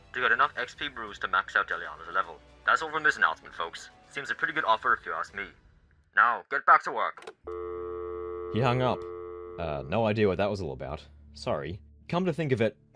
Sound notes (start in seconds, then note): 7.4 dial tone